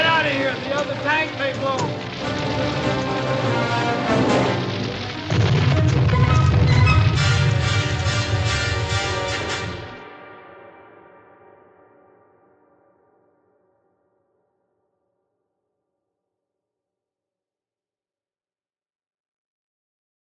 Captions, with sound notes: Get outta here, the other tank may blow. (plane exploding)